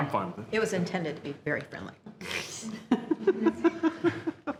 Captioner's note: laughs